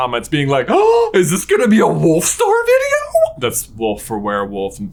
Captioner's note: gasps